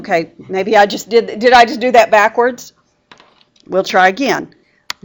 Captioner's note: laughing